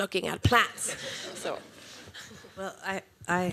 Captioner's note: laughter